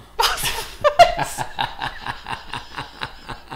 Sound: laughs

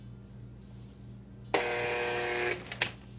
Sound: buzzer sounds

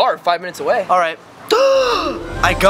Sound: gasps dramatically

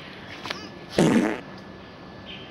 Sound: fart

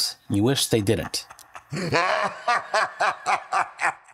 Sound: laughing

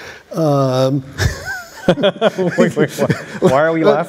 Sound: laughter

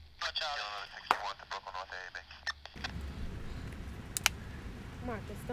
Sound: static buzzing; man On Radio; murmurs; phone clicks

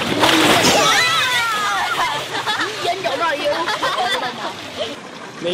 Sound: kids laughing

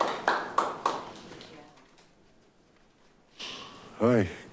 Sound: light applause

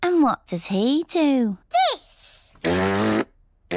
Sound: blows raspberry

